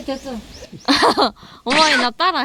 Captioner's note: laugh